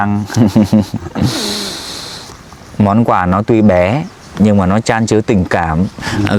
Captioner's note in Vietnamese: khịt mũi